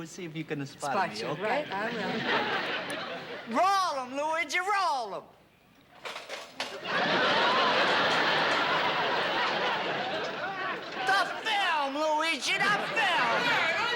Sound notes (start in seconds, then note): 6.6 laughter